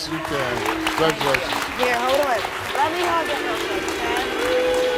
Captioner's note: crowd chanting Steve